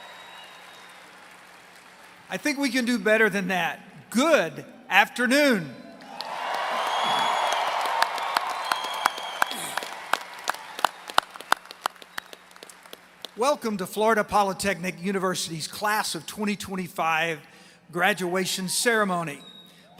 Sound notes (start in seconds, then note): 0.0 applause; 7.8 applause